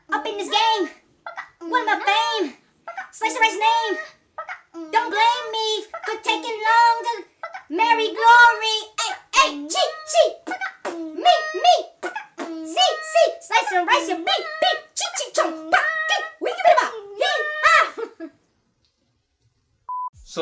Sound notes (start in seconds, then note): 8.9 beat boxing; 18.2 laughs